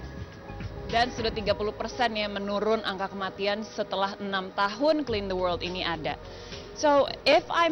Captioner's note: non-english speech